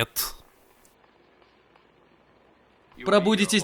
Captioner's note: train chugging